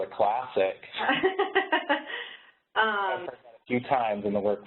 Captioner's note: laughter